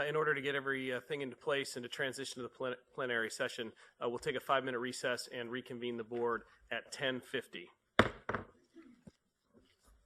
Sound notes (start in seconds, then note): 8.0 gavel